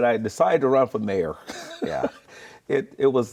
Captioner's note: laughing